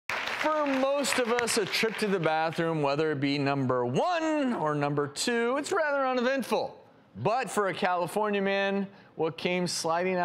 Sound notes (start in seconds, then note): 0.0 applauding